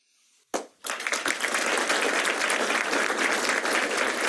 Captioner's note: applause